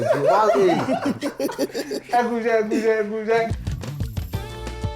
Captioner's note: everyone laughs